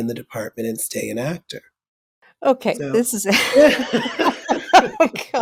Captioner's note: pause with laughter